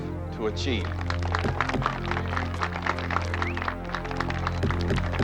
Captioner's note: applause